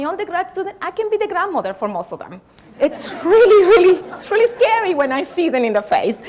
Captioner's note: laughter